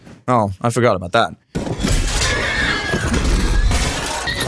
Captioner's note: crashing; horse screaming